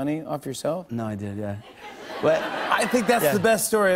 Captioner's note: laughter